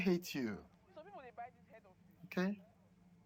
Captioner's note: neigbours talking